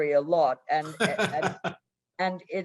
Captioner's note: laughing